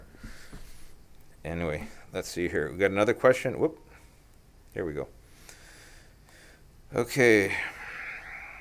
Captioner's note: sighs